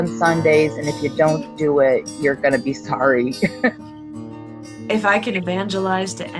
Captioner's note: chuckles